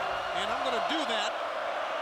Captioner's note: crowd cheering